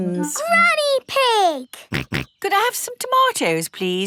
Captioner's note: snorts